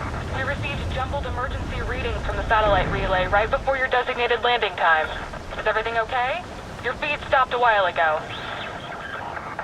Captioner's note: radio voice